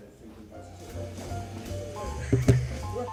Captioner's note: sounding gavel